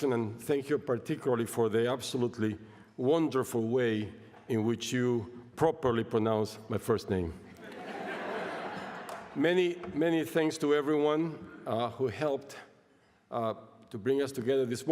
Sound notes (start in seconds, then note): 7.5 laughter